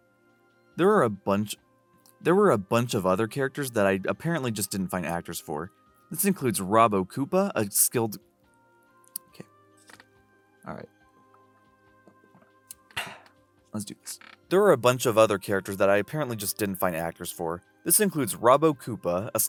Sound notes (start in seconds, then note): 9.1 lip smack; 12.9 exhale